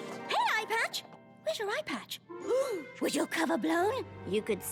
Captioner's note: gasp